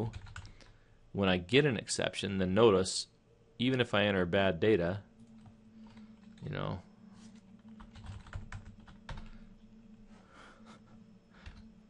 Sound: chuckle

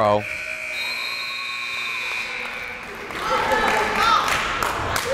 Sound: timer buzzes

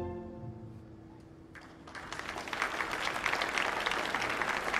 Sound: audience applauding

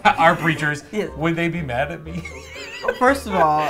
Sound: laughs

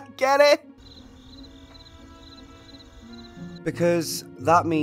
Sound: crickets

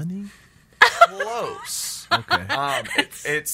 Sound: laughs

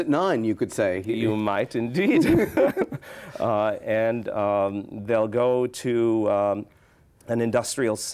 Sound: laughs

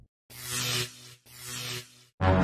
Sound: electricity crackling

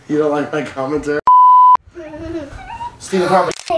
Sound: camera tone beeps

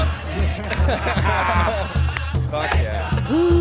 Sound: men laughing

